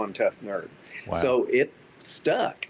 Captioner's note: pat